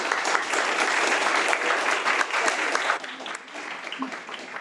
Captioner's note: audience applauds